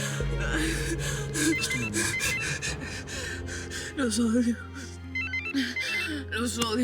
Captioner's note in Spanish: Sollozos